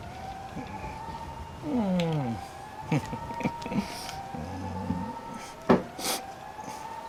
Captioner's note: chuckles